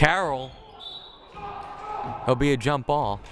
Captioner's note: whistle blaring